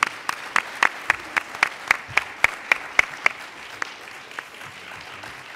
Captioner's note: applauding